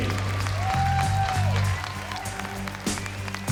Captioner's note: cheering, applause